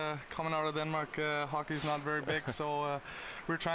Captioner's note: laughter